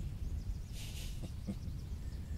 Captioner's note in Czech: Smích